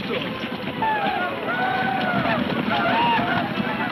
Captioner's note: men shouting